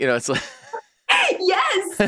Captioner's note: laughing